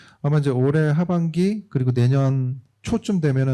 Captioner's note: speaking korean